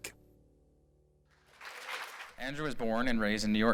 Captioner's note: applause